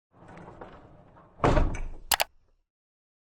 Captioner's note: click